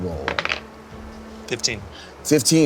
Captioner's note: die rolling